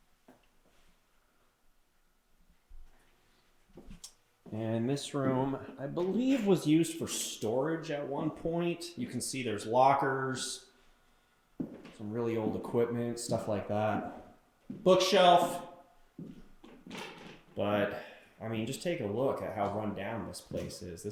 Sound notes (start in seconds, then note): none